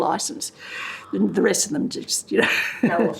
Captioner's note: laughter